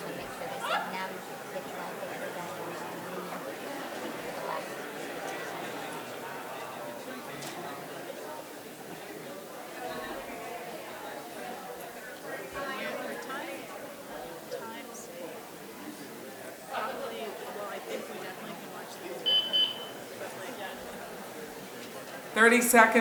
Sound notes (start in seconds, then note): 14.0 woman quietly speaking; 19.3 timer beeping